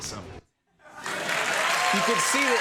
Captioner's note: crowd cheers